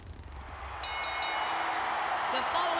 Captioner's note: bell dings